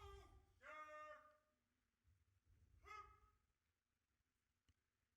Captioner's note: officer calling out commands